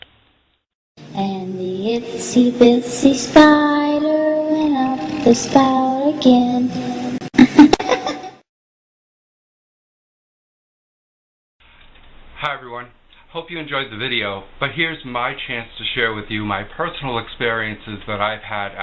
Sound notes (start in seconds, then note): 7.3 evil Laugh